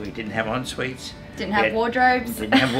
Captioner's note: laughs